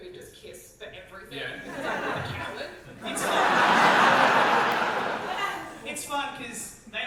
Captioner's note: audience laughter